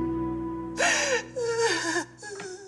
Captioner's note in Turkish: Ağlama sesi